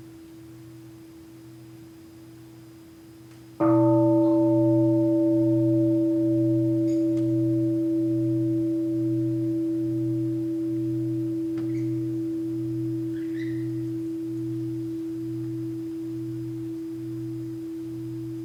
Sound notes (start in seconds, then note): 3.8 the bell is invited to sound